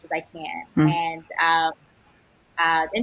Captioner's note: none